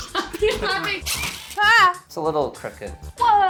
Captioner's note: drill hums; yells